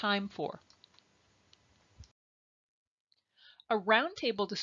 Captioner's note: silence